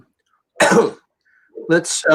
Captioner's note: coughs